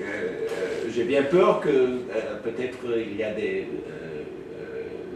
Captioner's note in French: hésitations